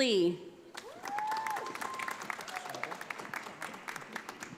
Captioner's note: audience applauding